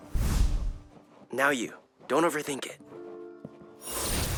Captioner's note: fire creaking; magical buzzing